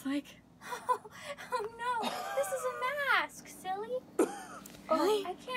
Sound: laughing

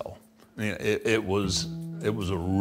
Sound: none

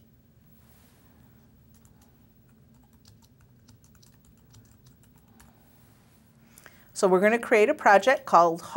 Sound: pause

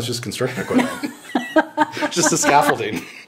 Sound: all chuckling

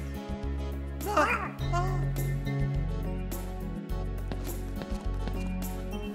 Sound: frightened murmuring

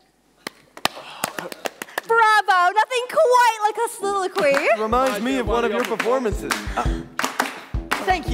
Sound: clapping

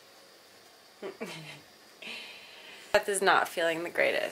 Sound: laughs

